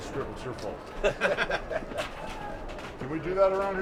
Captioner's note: chuckles